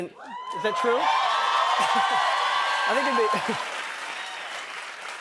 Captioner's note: cheers and applause